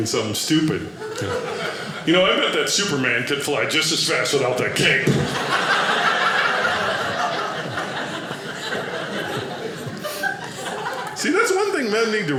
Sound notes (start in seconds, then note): 5.2 audience laughing